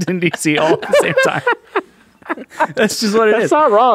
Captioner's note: all laughing